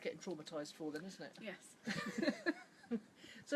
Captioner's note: laughs